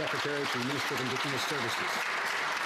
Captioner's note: some Applause